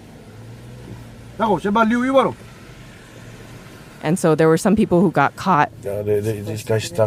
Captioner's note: speaking Samoan